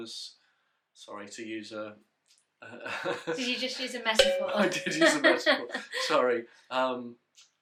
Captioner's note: laughs; they laugh